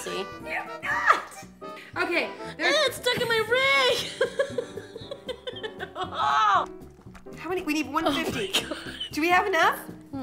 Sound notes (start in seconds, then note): 3.9 laughter